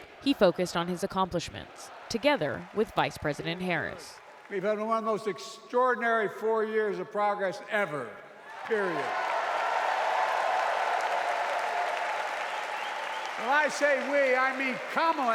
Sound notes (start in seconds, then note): 11.2 cheering; 11.9 applause